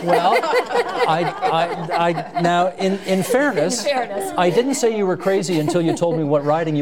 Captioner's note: laughter